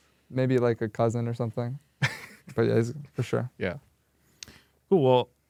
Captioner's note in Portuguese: risos